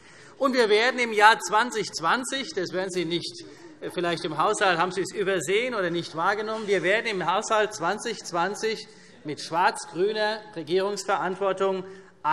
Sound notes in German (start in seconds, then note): none